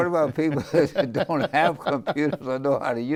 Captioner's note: laughing; laughs